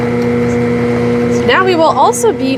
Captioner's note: mixer sound